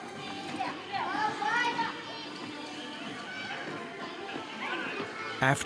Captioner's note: children exclaiming